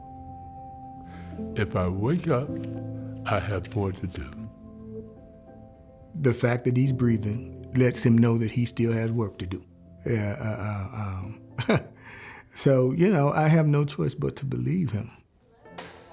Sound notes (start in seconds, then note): 4.7 gentle melancholy music; 11.5 chucklea; 15.6 gentle piano music